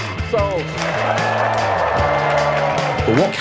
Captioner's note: crowd cheers